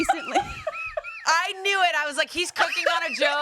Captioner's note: continue laughing